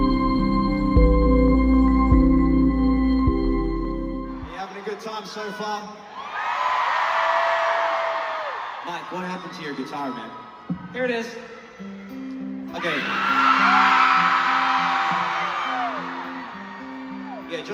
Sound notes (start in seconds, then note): 7.5 crowd cheers